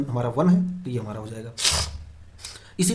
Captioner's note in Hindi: नाक से की जाने वाली आवाज़